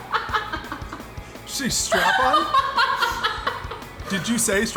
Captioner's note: laughs